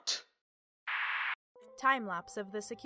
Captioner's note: static noises